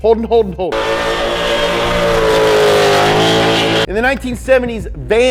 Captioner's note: engine revving